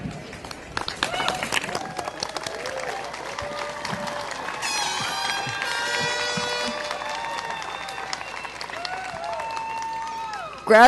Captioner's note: applause